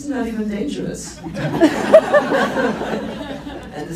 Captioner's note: laughs